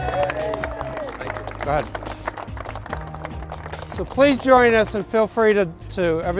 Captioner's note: applause